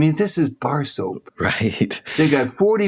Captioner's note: laughs